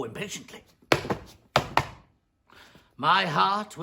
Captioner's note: stamping